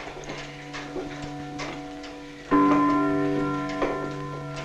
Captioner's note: clock strikes